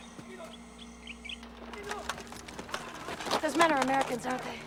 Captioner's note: distant Yelling in Korean